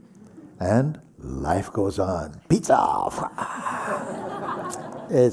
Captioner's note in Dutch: gelach